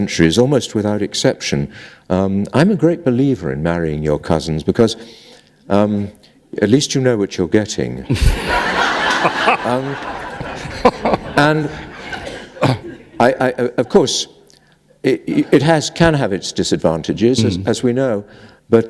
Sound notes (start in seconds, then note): 9.7 laughter